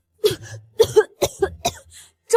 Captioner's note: cough, cough, cough